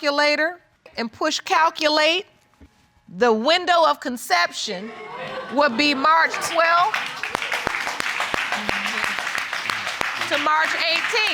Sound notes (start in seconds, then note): 6.0 audience applauding